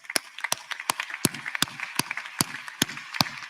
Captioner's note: applause